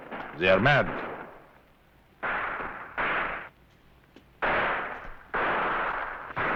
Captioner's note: gunfire